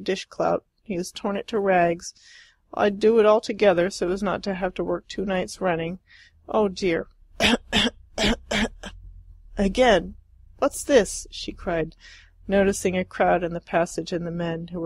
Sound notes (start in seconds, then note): 7.4 cough, cough, cough, cough!